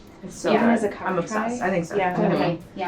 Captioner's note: woman's Voice